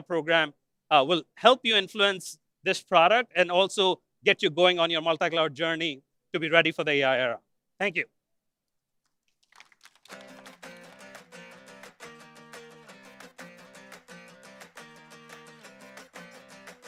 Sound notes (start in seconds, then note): 4.9 applause